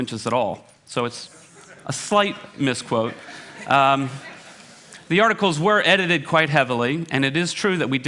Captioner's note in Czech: smích